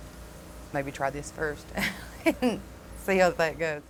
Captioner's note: laughs